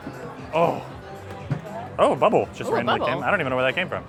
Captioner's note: groans